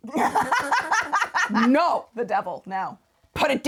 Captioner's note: laughing